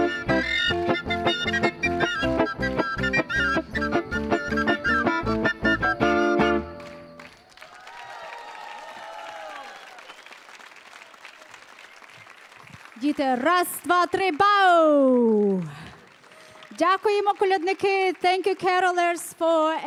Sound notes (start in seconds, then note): 8.1 crowd cheering and applauding; 13.3 speaking foreign language